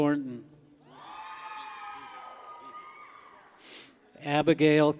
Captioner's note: people cheer